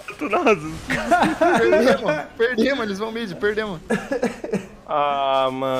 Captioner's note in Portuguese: risos